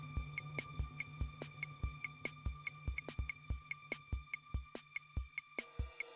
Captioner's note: none